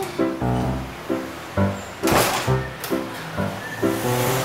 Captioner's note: door slammed